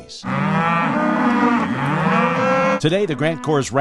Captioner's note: cattle mooing